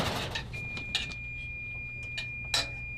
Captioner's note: oven timer beeping